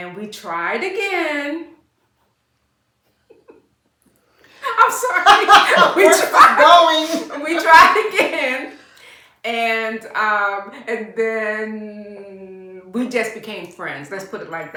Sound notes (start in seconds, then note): 1.6 laughter